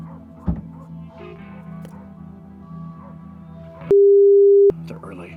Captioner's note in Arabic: يغلق باب السيارة